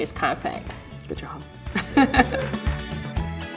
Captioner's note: laughs